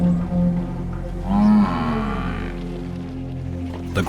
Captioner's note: buffalo grunts